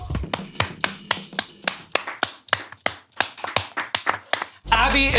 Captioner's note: applauding